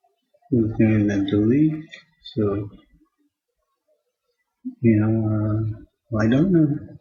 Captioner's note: speaking to self